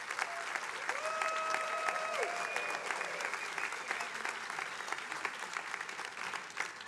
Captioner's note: attendees applauding